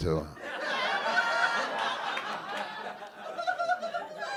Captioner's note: audience laughing